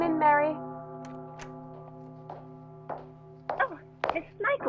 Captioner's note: door opens, footsteps